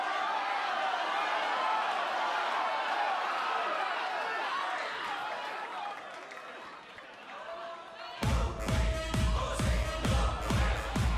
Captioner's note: crowd response